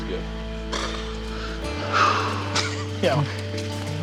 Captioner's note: exhales